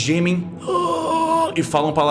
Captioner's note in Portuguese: gemidos